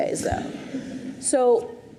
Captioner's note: audience chuckles